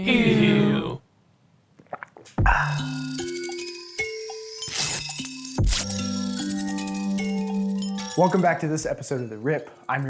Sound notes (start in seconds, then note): 2.4 Riker sighing; 2.4 gentle music